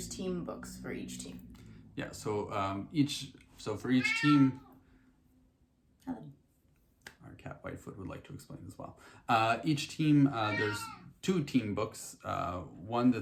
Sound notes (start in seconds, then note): 3.8 cat meows; 10.3 cat meows